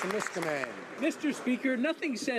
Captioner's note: some Applause